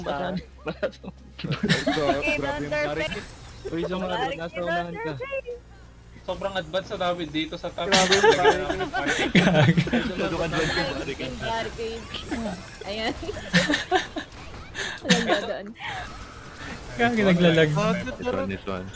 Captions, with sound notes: barricade their base! we're too advance here at top [laughs] oh no it's laggy